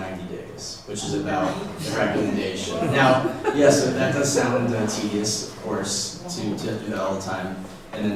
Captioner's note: laughter